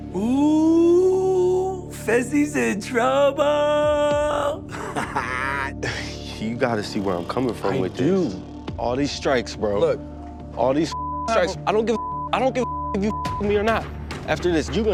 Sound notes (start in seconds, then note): 4.6 laughs; 11.9 beep